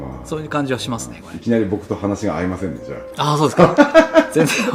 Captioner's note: laughs